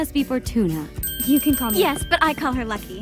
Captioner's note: bell ringing